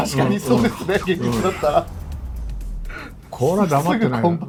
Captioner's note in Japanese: 笑い